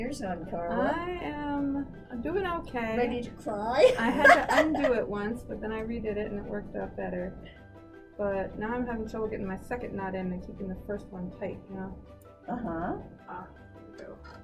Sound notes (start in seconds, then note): 3.8 laughs